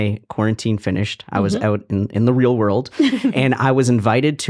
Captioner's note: laughing